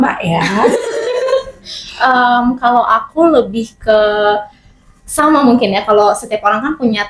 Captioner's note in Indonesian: tertawa